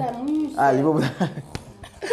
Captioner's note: laughs